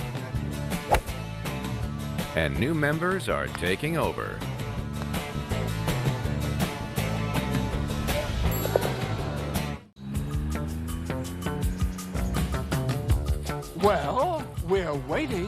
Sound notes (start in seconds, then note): 0.7 golf swing